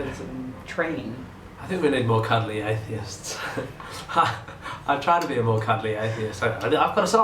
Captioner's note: laughing